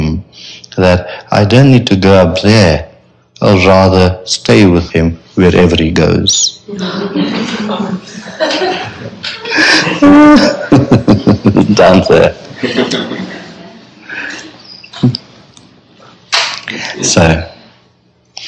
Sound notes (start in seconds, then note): 6.7 laughter